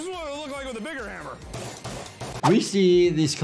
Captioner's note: hammer smacks